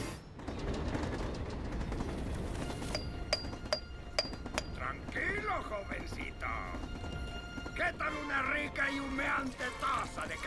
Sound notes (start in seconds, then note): 2.8 clinking